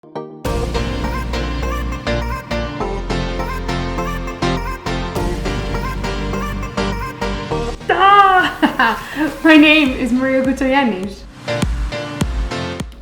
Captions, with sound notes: (tropical house music) - (laughing) My name is Maria Koutsogiannis.